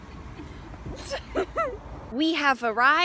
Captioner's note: Joana laughs